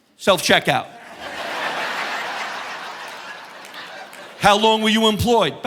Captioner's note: audience laughing